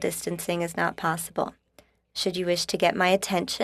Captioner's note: speaking in french